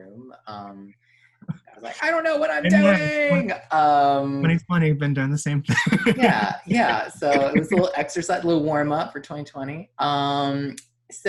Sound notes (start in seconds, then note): 3.5 both chattering